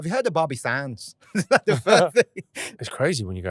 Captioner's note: laughs